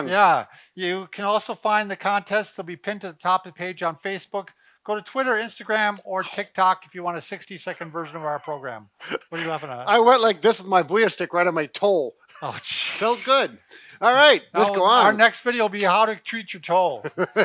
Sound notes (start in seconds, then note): 7.8 chuckling